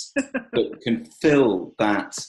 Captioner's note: laughs